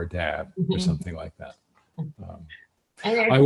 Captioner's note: laughs